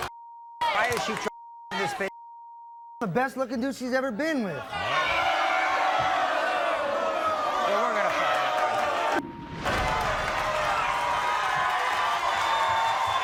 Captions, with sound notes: - I'm the best looking dude she's ever been with. (audience groans) - We're gonna find out. (audience cheers)